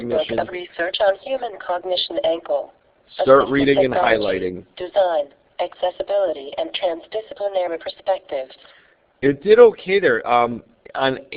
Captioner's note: computer reading